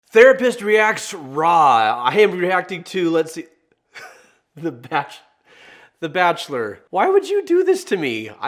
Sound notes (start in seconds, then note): 4.0 laughing